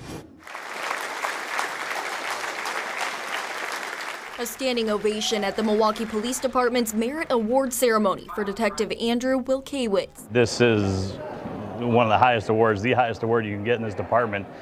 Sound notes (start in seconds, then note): 0.4 applause